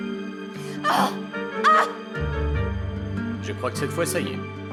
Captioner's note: Catherine groaning; suspenseful music continues; Catherine yelling